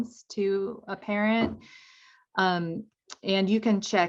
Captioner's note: door thuds